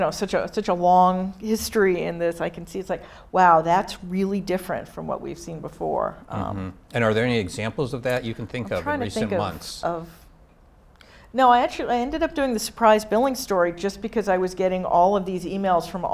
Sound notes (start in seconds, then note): none